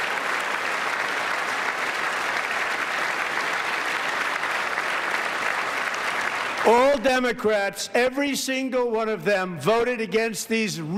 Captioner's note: applause